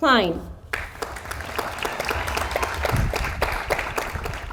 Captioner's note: audience applauds